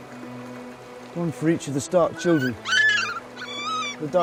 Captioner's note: pups squeal